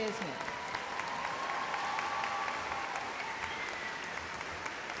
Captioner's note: audience applause